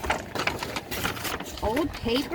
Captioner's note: paper bag rustling